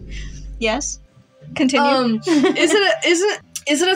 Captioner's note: laugh; giggle